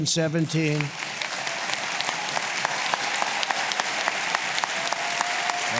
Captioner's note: applause